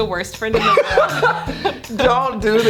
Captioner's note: laughing